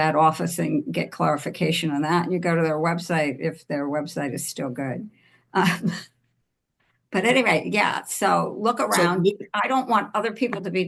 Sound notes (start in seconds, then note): 5.8 chuckles